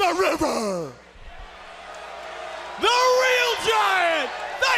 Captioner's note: crowd cheering